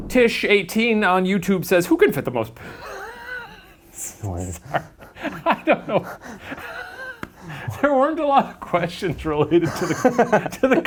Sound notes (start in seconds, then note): 4.1 laughs